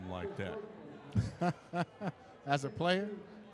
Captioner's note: laughing